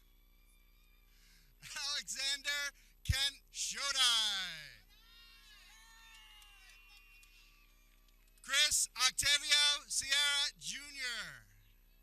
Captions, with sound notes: Alexander Kent Shodai (people cheering) Chris Octavio Sierra, Junior